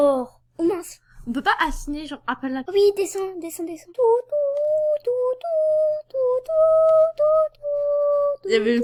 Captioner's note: starts humming